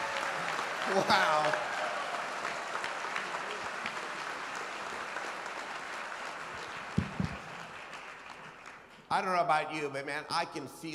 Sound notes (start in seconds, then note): 1.8 applause